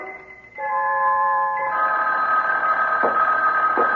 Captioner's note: phone rings